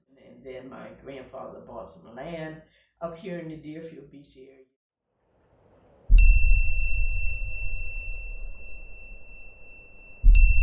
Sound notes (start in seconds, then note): 6.2 beep